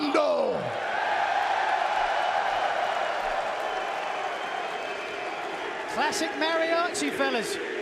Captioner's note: cheers and applause